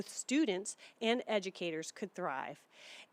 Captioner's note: none